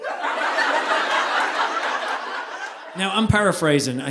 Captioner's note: audience laughing